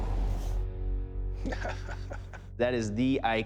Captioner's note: laughs